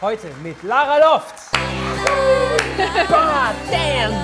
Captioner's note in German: Applaus, idyllische Musik